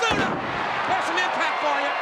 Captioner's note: audience cheers